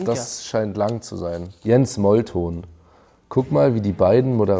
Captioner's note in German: none